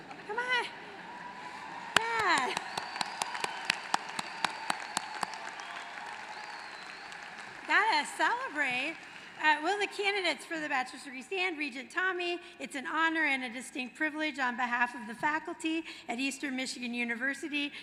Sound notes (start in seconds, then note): 3.4 applause